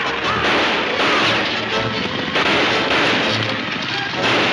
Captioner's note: gunshots banging